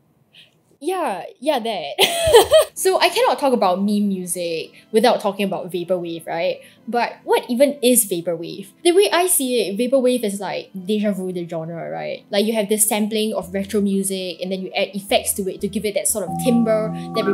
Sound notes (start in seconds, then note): 2.1 laughs